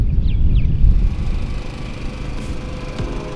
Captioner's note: wind blowing; upbeat pop music